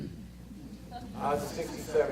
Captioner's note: audience laughter